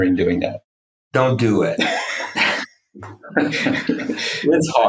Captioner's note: laughs